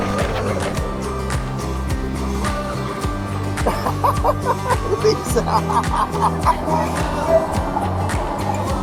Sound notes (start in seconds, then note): 3.7 laughs